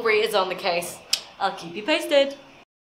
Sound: click

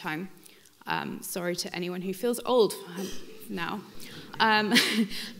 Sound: laughs

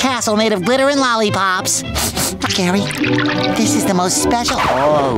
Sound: sniffling

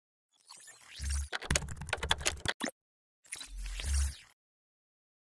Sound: keys clacking

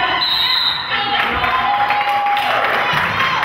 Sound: whistle blows

